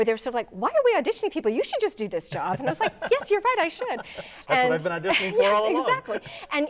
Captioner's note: laughing